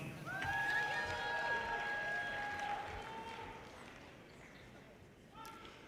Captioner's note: audience cheers and applause